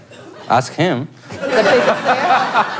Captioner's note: laugh